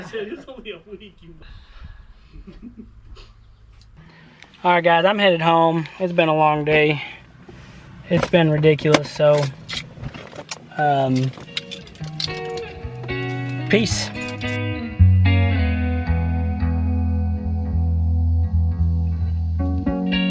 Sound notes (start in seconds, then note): 2.3 men laughing